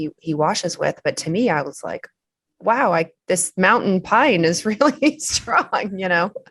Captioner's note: laughs